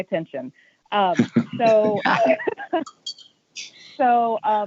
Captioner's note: laughing